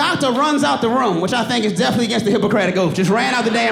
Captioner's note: audience laughs